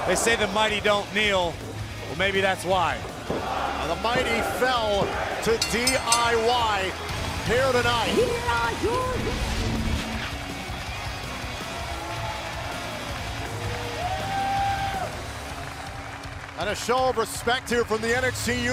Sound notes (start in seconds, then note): 5.5 bell ringing; 13.5 cheers and applause